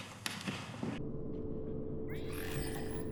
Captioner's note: engine ambience; digital error noise